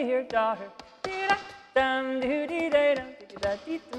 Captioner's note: shoes clacking